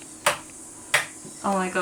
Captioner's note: light switch clicking